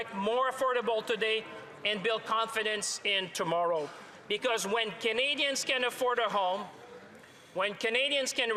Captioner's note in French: voix de l'interprète